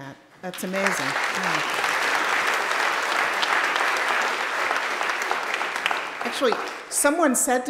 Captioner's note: applauding